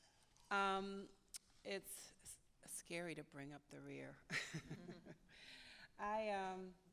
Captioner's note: chuckles